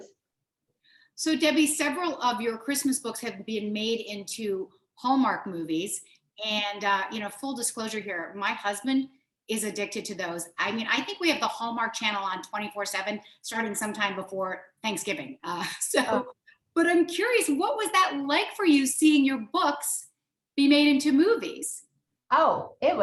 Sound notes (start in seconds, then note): 16.0 laughs